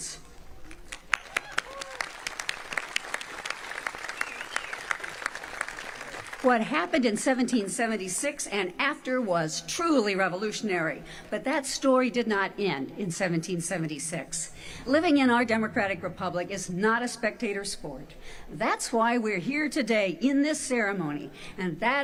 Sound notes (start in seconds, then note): 3.8 applause